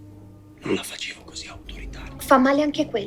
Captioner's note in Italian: sottovoce